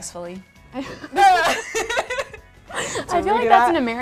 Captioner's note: ladies laughing